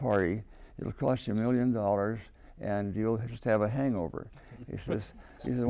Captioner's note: laughter